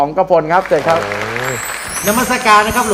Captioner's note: applause